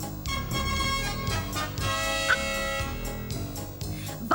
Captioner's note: laughing